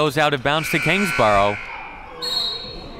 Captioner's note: clock buzzes; referee blows whistle